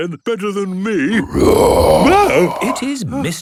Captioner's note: loud roar